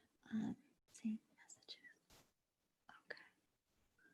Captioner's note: whispering